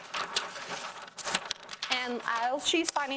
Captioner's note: paper rustling